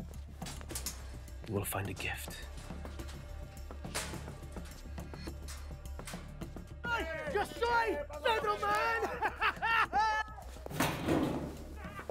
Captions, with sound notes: When you get to the medical room... ( Metal Clattering ) you will find a gift.